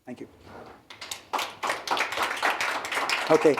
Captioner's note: applause